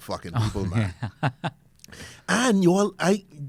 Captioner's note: laughs